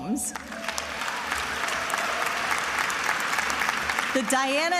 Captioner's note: attendees applauding